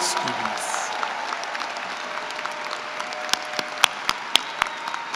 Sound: applause

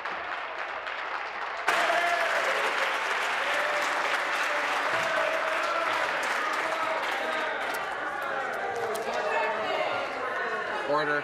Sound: some Applause

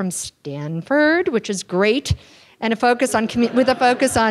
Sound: students laugh

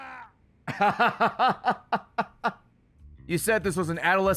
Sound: laughs

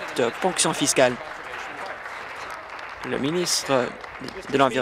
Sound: applause

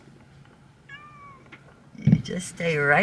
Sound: meow

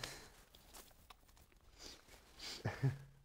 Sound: awkward silence

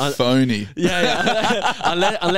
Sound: laughing

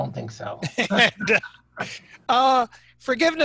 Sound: laughing

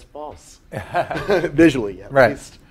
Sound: laugh

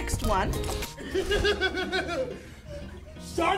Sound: man laughs

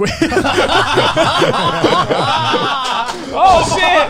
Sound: everyone laughs

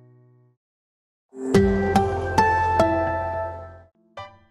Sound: sonic logo

